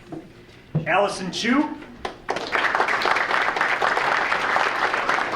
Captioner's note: audience applauding